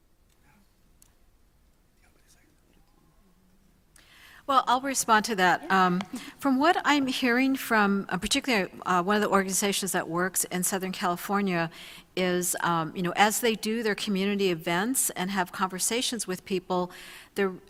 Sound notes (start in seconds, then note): 0.9 panel whispering